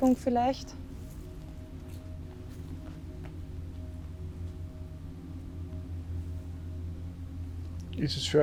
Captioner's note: wind in the background